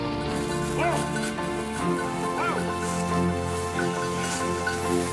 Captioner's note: shouting